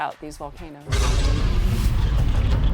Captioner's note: volcanoes erupting